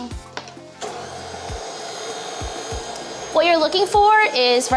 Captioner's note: blender whirring